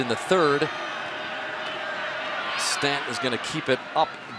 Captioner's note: booing